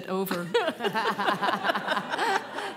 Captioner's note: laughing